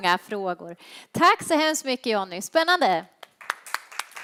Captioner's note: applause